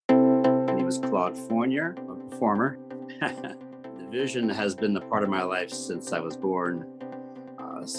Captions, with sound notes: (upbeat music) - My name is Claude Fournier, I'm a performer. (laughs) The vision has been a part of my life since I was born.